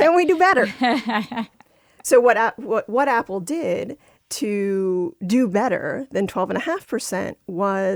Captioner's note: laughter